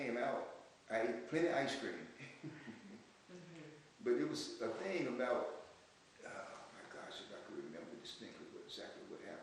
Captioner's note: laughs